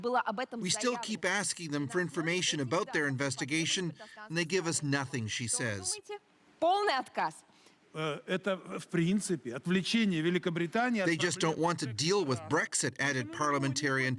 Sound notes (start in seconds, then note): 12.1 speaking russian